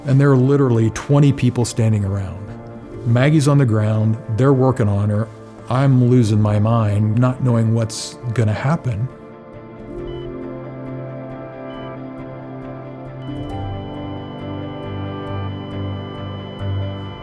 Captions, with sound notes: and there are literally 20 people standing around. Maggie's on the ground. They're working on her. I'm losing my mind, not knowing what's gonna happen. (monitor beeping) (gentle tense music)